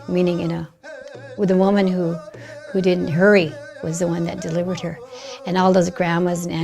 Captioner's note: speaking in Lakota